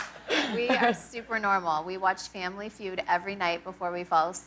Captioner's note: laughter